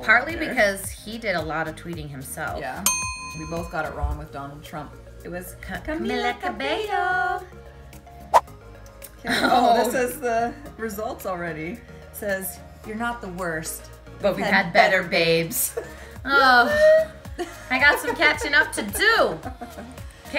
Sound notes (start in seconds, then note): 9.1 chuckling; 15.8 sighing